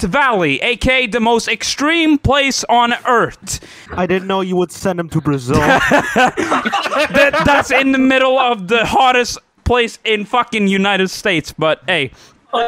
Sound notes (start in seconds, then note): 5.1 group laughter